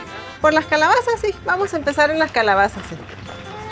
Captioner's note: speaking spanish